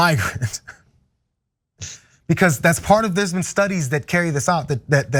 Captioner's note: laugh